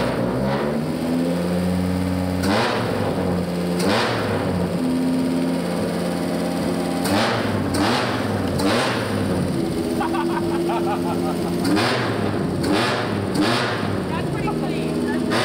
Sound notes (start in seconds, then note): 0.1 engine revving; 2.3 engine revs; 7.2 repeatedly revs engine; 9.9 laughs; 11.8 engine revs